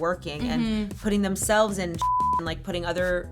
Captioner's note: beep